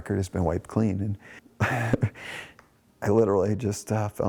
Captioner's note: laughs